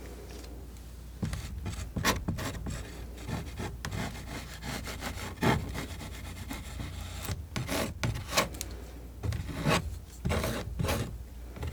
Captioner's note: scratching